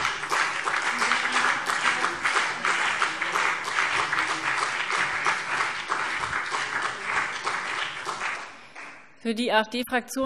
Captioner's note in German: Beifall CDU und BÜNDNIS 90/DIE GRÜNEN